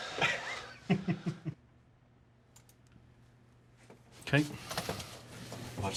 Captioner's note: chuckles